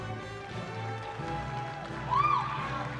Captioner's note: applause